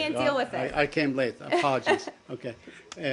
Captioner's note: laughter